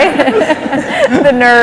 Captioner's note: laughter